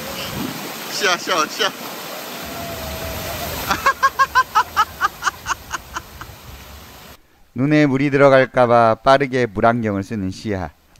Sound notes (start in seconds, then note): 3.2 laughing